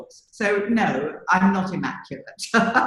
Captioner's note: laughs